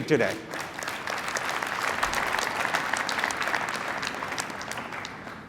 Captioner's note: applause